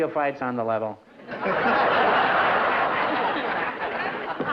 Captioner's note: laughter